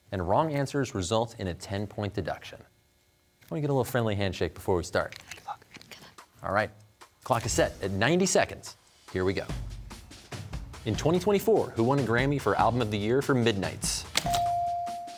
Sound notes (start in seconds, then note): 5.6 whispers